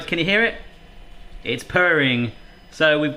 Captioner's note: machine humming